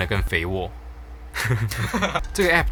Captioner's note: laugh